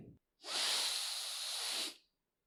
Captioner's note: deeep breath